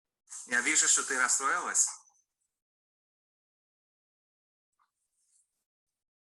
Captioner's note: man speaking in foreign language